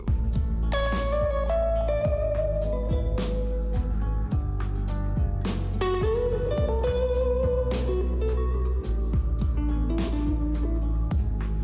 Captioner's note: clap